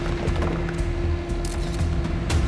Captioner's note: shutter clicks